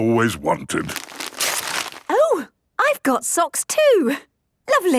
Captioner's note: tearing